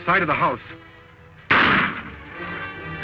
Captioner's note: gunshot